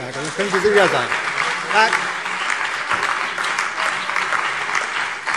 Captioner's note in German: Beifall CDU, BÜNDNIS 90/DIE GRÜNEN und DIE LINKE